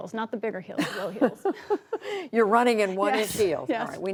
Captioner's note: laughter